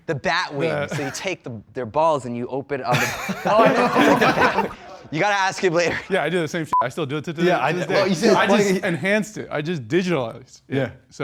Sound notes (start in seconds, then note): 2.9 contestants laughing; 6.7 beep